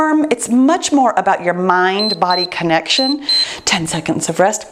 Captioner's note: timer beeps